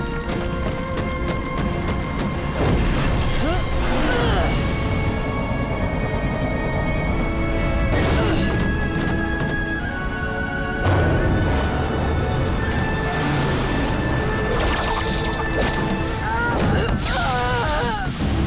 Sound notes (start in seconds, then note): 3.1 grunting; 10.1 stomping; 16.2 groaning